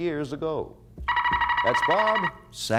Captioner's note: buzzer sounds